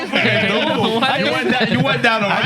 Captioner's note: laughter; non-english Speech